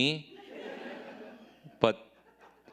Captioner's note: audience laughing